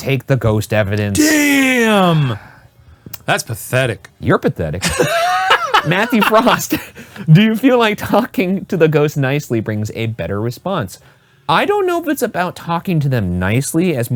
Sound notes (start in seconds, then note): 4.8 laughing